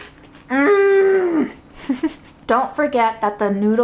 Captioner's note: chuckles